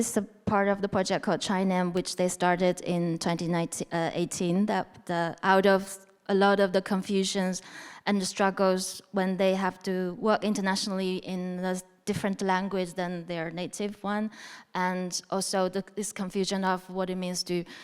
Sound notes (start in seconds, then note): none